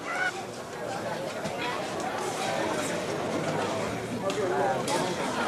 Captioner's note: excited chattering